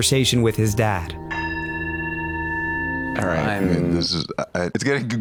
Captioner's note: bowl ringing